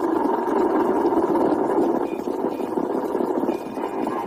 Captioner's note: static and beeps